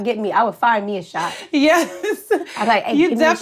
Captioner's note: laughs